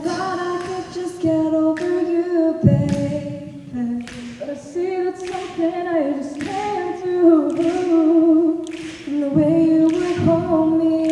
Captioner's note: snapping